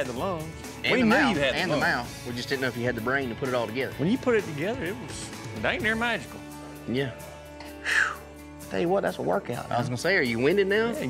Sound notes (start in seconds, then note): 7.6 exhales